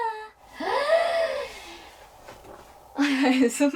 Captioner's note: A big inhale